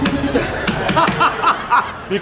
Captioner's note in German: Gelächter